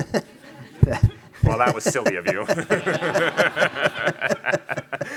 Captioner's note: chuckles; laughing